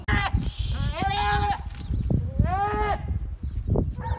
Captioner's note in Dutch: gillende geiten